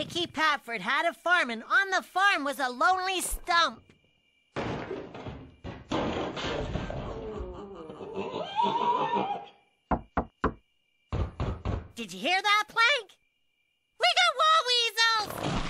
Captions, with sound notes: "DICKY PAFFORD HAD A FARM, AND ON THE FARM WAS A LONELY STUMP." [THUD] [THUDDING AND CREAKING] [MUFFLED SCREAM] [KNOCK KNOCK] [KNOCK KNOCK] DID YOU HEAR THAT, PLANK? WE GOT WALL WEASELS!